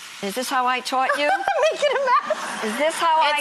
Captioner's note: laughter